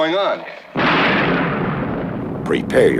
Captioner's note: lightning thunders